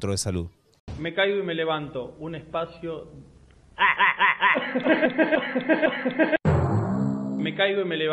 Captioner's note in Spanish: risas